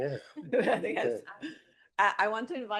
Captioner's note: laughs